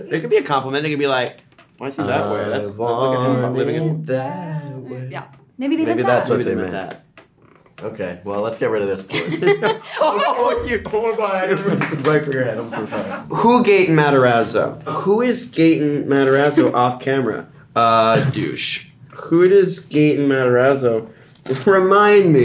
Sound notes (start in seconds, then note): 9.0 all laugh; 10.0 all exclaim